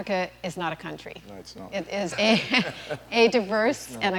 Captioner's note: laughter